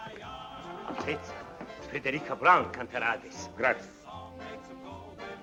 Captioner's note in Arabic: الصوت المنطوق بالإيطالية